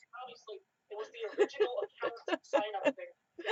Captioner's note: laughing